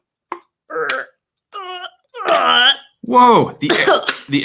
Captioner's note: grunting